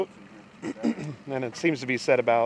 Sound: clears throat

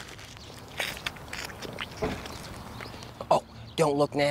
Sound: food crunching

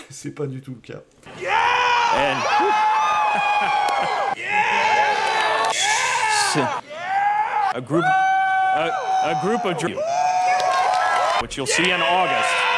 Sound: screaming intensifies

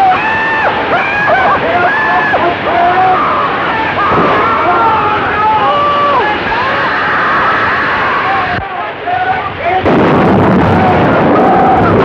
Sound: screaming

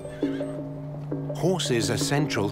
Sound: horse whinnies

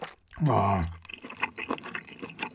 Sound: astonished

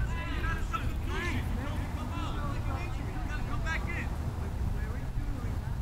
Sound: players talking and yelling

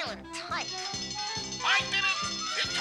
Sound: game ringing

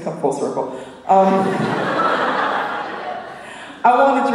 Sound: laughter

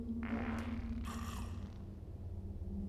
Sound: loud fart

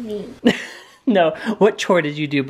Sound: laughs

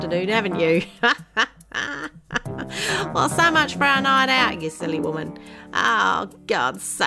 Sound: laughs

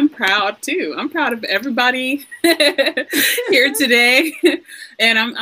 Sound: chuckles

